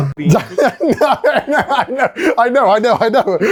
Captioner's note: laughs